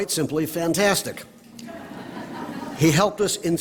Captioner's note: laughter